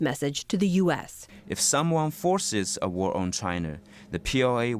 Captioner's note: through translator